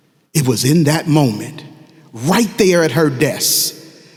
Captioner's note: none